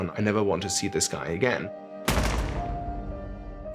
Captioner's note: gunshots